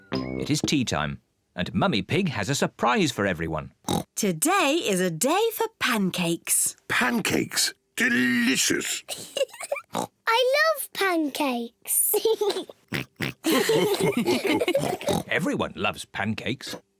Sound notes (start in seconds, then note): 3.8 oinks; 8.0 giggles and oinks; 12.1 giggles and oinks; 13.4 all laugh; 14.3 mummy pig oinks